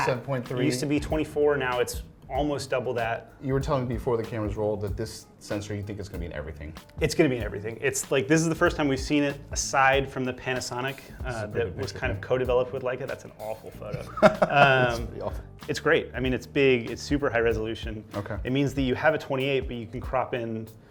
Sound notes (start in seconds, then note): 13.9 laughs